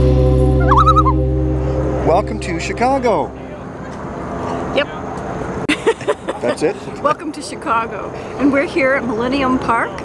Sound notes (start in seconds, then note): 0.6 loon calls; 5.6 laughter